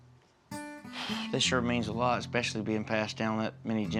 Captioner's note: sighs